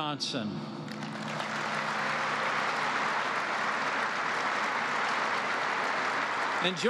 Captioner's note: applause